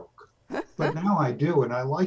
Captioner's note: laughs